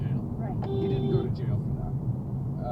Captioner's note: beeeep!